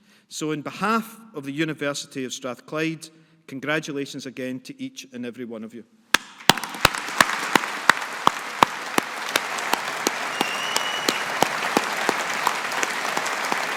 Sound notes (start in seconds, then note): 6.3 audience applauding